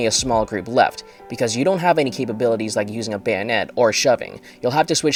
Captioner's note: defensive